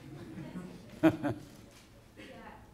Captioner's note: laughter